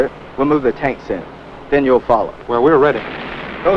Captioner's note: bomb explodes